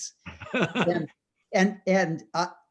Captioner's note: laughs